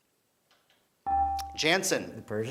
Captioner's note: beeping